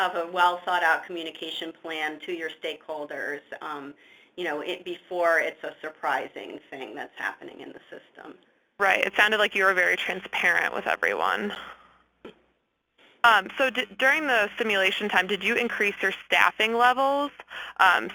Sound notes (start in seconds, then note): 9.0 voiceover